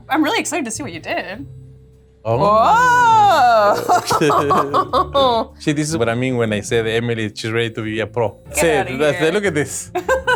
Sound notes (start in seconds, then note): 4.0 laughing; 10.0 laughing